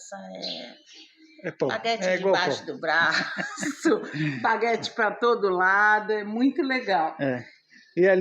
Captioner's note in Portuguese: risadas